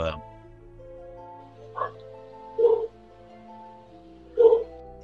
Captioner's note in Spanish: perros ladrando